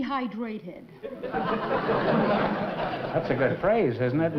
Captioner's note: laughter